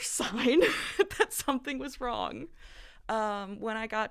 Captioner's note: laughter